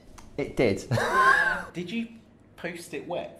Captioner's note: scoffs